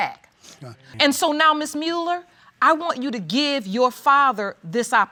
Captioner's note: sniffles